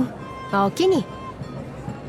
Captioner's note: in Kansai dialect